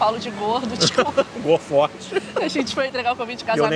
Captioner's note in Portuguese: rindo